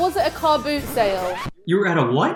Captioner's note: record scratches